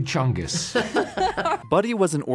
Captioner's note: laughing